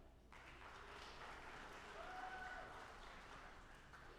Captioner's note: audience applauding